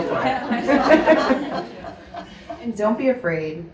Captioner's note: audience laughs